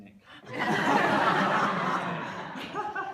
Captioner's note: laughter